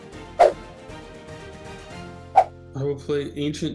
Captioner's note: fast whooshing sounds